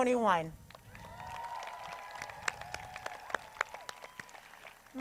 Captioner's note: crowd cheers